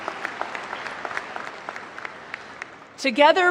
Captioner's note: applause